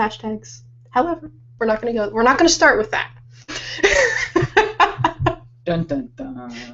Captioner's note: laughing